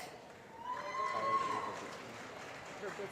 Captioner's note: applause